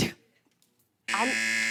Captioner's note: buzzer